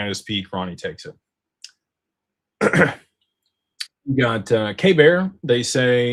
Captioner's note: clears throat